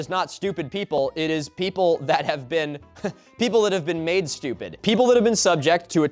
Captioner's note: chuckles